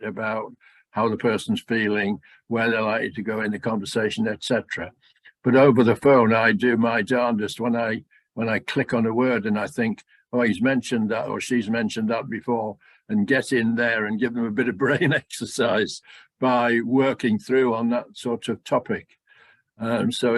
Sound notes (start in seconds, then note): none